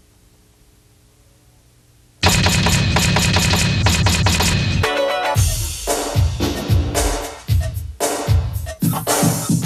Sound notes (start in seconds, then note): 2.2 typewriting pounding; 5.6 upbeat urban music